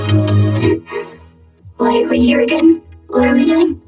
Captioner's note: gasps